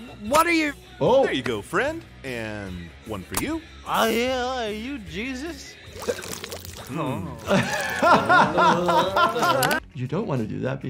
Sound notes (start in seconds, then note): 5.9 blood sloshes; 7.0 laughs